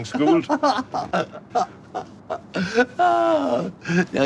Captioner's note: laughing